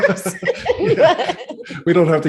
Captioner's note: laughing